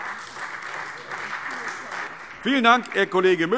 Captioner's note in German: Beifall Freie Demokraten